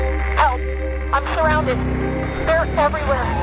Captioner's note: woman on radio